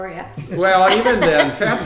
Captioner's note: laughing